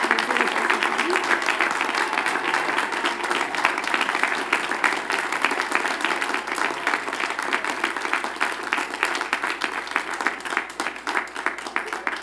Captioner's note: cheers and Applause